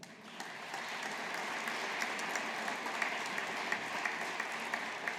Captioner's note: audience applauding